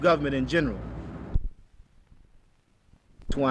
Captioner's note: silence